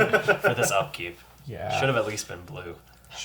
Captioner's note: all laugh